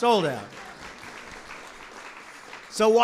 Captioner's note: applause